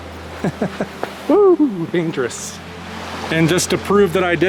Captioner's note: laughter